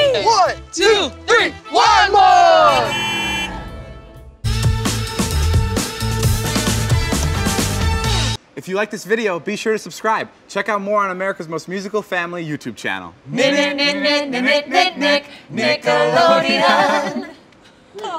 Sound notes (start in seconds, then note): 2.6 van horn honks; 4.5 upbeat music